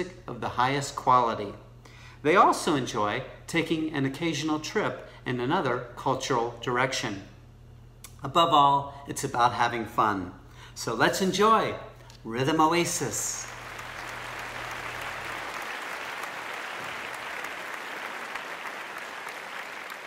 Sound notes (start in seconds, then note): 13.4 hands clapping